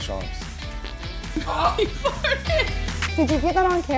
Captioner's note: dog farting